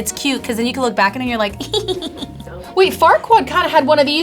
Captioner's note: laughs